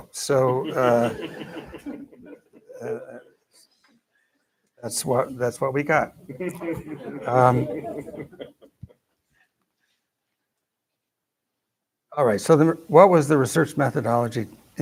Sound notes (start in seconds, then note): 0.4 laughter; 6.3 laughter